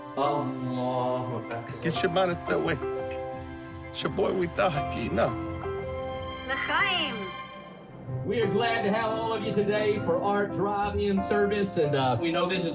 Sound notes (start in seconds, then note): 0.1 third man speaking native language; 1.7 fourth man speaking native language; 6.5 woman speaking native language